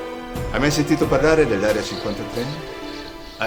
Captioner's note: birds singing